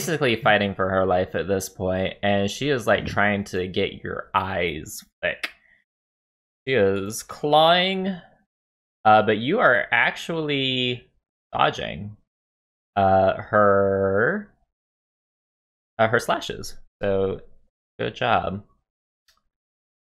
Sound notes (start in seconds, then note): none